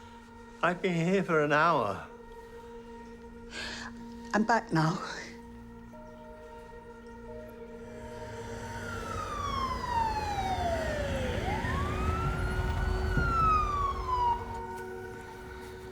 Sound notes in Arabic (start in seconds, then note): 2.4 تنهدات; 8.7 صفارات سيارات الإسعاف تبكي